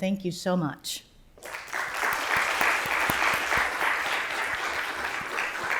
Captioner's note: applause